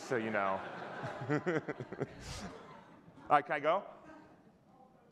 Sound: audience laughing; chuckling

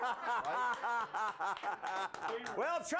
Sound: laughter

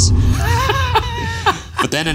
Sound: laughing

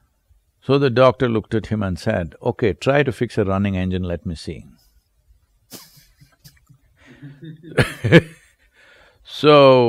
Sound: both laugh

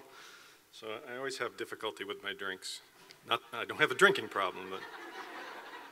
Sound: laughter

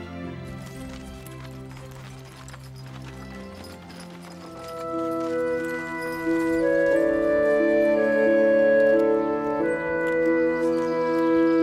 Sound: birds

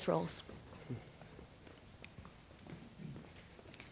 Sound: shuffling

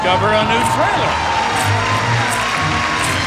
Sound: audience cheers; adventure music

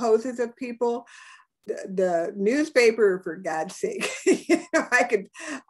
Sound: laughs

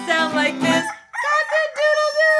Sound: rooster crows

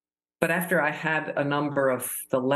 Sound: none

